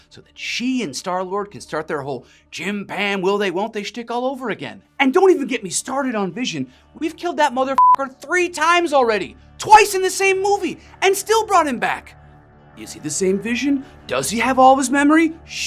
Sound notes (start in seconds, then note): 7.7 beep